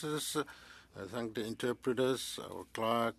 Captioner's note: speaking French